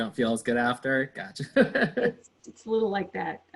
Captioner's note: laughs